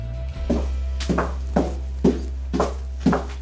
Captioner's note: footsteps